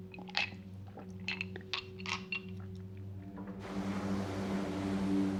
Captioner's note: ice clinking in the glass; tense music